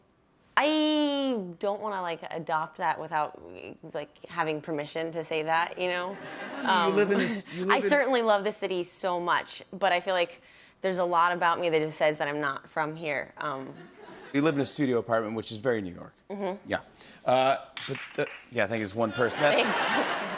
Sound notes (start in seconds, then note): 17.7 applause